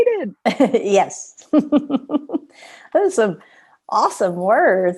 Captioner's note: laughter